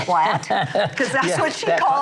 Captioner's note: laughs